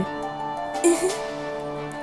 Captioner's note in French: petit rire